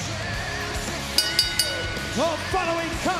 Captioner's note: bell ringing